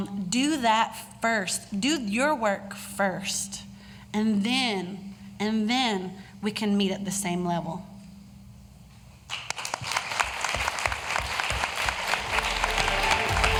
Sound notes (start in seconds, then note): 9.3 applause; 11.6 closing music